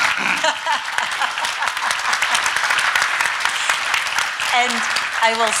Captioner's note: audience clapping; laughing